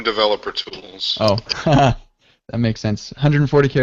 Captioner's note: laughing